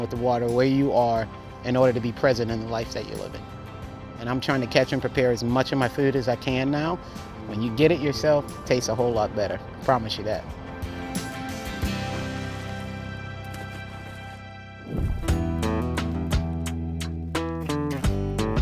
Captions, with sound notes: with the water where you are, in order to be present in the life that you're living. And I'm trying to catch and prepare as much of my food as I can now. When you get it yourself it tastes a whole lot better, I promise you that. [water splashes] [country guitar strums]